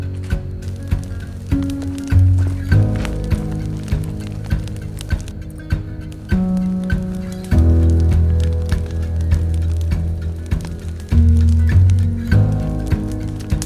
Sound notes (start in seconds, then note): 1.2 fire crackles